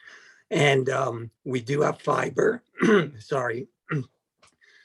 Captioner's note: clears throat